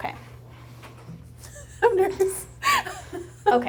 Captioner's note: laughing